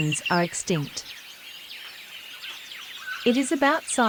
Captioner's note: birds' chirping sounds